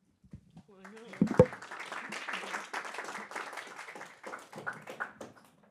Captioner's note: applause